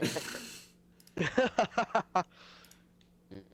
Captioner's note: laughs